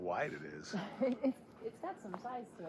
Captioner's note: laughs